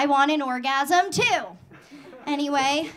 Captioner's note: audience laughing